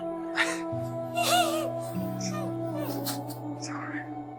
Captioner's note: Moira starts crying